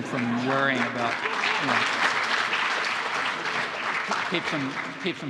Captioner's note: audience applauding